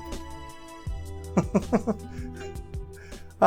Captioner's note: chuckles